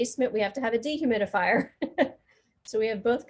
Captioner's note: laughing